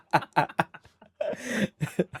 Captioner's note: inhale